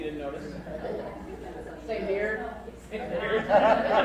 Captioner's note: crowd laughs